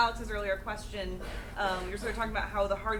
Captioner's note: coughing